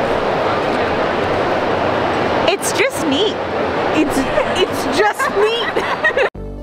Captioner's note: laughter